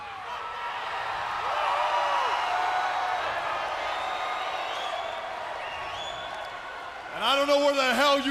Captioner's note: crowd cheering